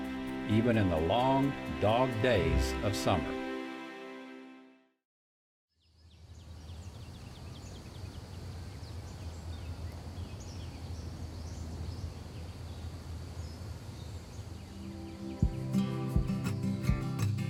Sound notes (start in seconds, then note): 6.4 birds chirping; 6.4 wind blowing; 15.2 upbeat guitar music